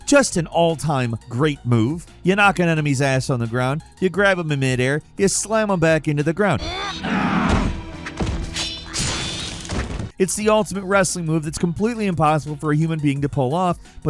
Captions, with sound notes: Just an all-time great move. You knock on enemy's ass on the ground, you grab him in mid-air, you slam 'em back into the ground. (combatants grunting) (sword clanging) It's the ultimate wrestling move that's completely impossible for a human being to pull off,